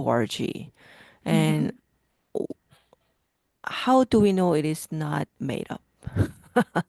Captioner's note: laughs